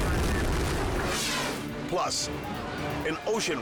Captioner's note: boat crashing; air whooshes